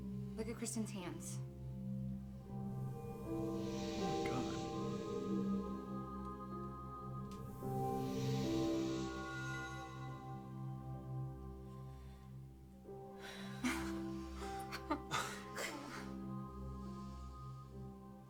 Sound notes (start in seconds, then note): 14.2 nervous laughing